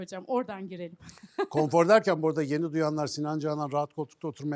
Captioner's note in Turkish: kahkaha